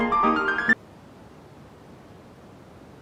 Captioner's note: room ambience